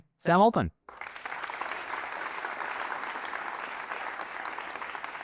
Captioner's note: applause